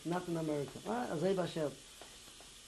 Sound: non-english

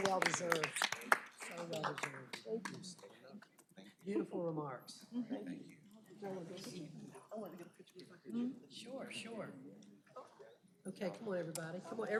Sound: applause

